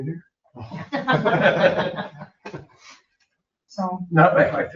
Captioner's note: people laugh